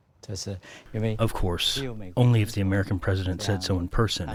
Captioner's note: through translator